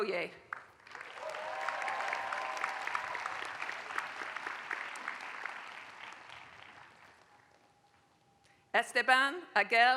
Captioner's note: applause